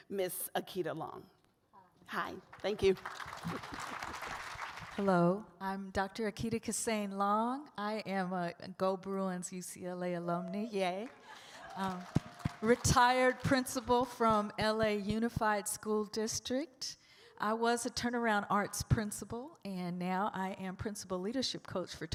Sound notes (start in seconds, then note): 2.5 audience applauds; 10.8 audience claps and cheers